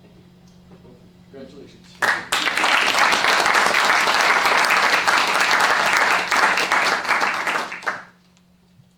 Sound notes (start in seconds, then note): 1.9 applause